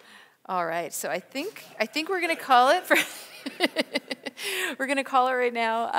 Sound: laughs

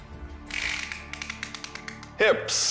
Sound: tape measurer clicks

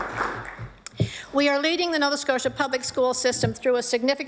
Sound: applause

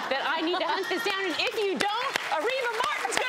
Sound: applauding

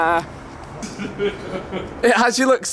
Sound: chuckling

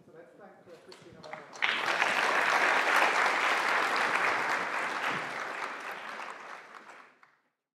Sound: applause

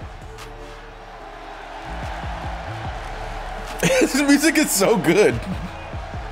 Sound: laugh

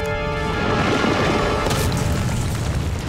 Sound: smashing

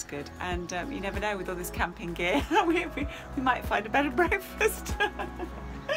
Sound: laughs

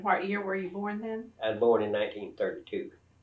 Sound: laughs

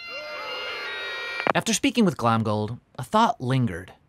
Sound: prisoners groaning; bagpipes playing; phone clicks

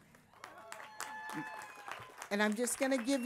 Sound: applause

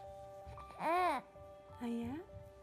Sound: baby gurgling

